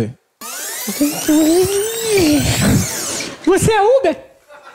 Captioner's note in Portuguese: fita rebobinando